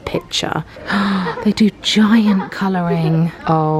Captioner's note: gasping